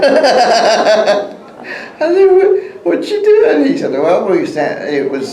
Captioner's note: laughs